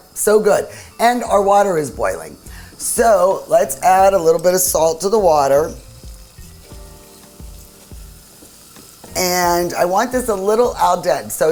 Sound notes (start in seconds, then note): 5.9 oil sizzling